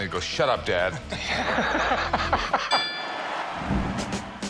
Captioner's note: laughter